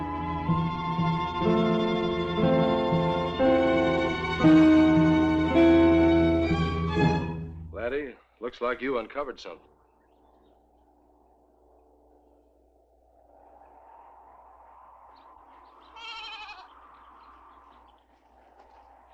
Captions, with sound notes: (dramatic music) Laddie, looks like you uncovered something. (wind whooshing) (goat bleating)